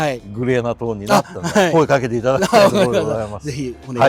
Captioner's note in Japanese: 笑い